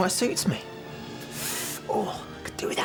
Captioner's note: inhales sharply, groans